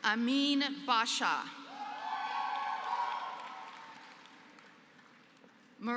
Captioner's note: applause